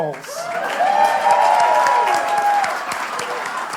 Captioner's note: applause